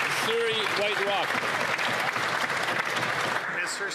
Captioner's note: some Applause